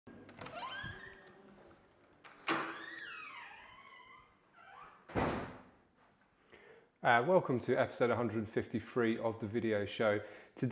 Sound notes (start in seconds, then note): 0.1 door creaks